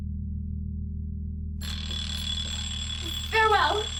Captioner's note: alarm ringing